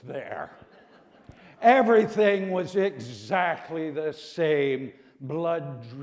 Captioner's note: laughter